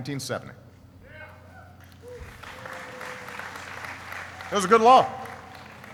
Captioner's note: applauding and cheering